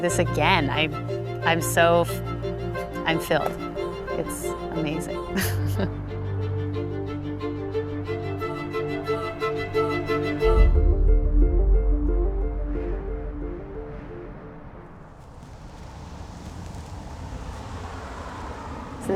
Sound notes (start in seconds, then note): 7.7 upbeat music; 11.8 wind blowing